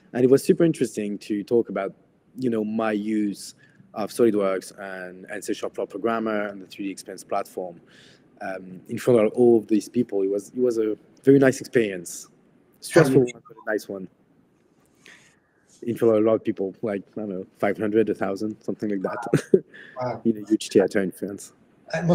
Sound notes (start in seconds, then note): 19.0 chuckles